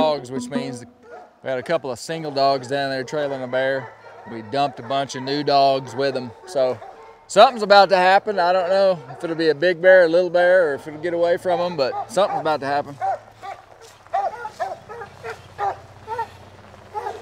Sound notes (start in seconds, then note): 13.7 dogs barking